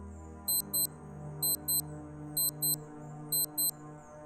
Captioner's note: watch beeping